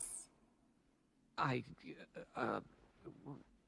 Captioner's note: stuttering